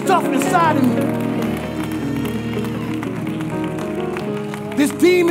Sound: congregation applauding

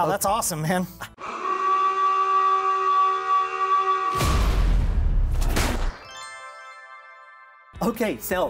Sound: alarm sounds

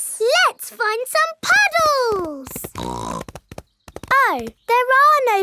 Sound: snorts

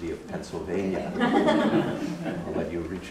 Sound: laughter

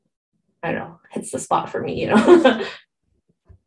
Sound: laughs

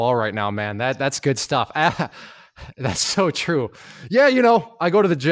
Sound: laughs

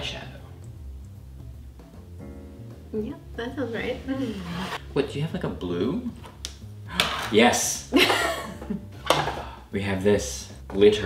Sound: gasps

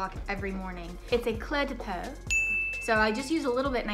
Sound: bell dings

